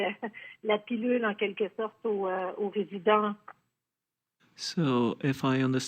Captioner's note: speaking French